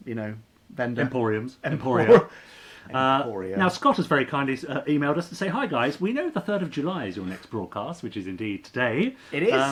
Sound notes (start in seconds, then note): 1.9 laughing